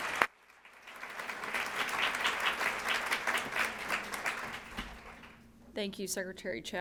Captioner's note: applause